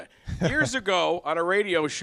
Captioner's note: laughter